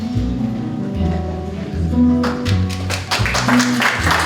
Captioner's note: applause